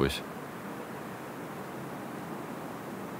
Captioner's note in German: none